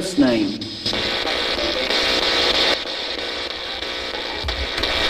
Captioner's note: static buzzing